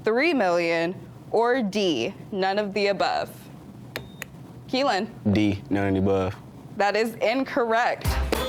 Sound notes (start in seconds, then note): 4.0 buzzer beeps